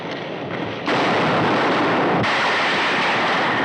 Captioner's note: gunshots